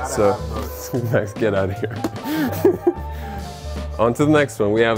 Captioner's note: laughs